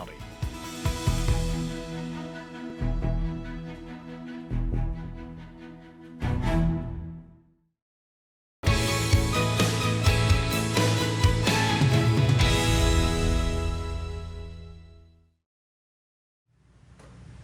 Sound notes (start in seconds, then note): 4.9 sound of People working